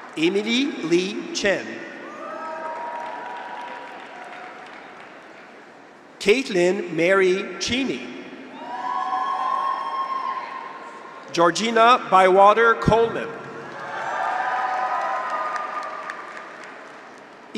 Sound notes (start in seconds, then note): 2.0 graduates cheer; 2.3 audience applauds; 8.5 graduates cheer; 13.6 graduates cheer; 13.7 audience applauds